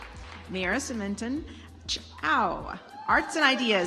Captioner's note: audience applauds